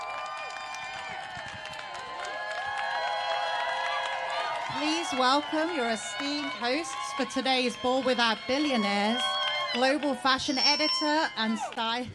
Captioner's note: applause